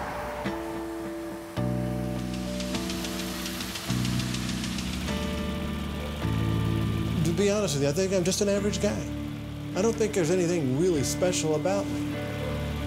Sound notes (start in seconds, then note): none